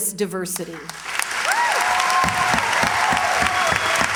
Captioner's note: cheers, applause